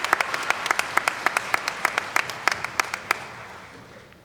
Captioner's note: applause